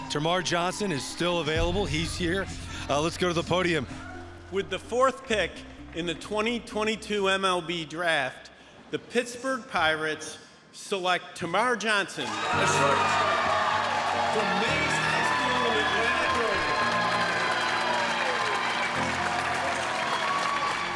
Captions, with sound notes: Termarr Johnson is still available, he's here. Let's go to the podium. - With the fourth pick in the 2022 MLB draft, the Pittsburgh Pirates select Termarr Johnson. (audience cheering)